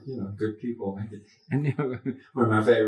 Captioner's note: chuckles